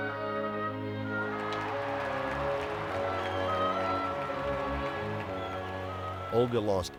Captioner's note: audience applauding and cheering